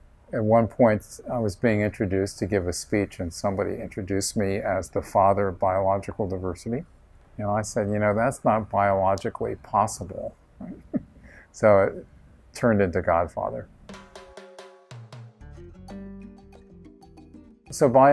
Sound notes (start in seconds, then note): 10.6 laughs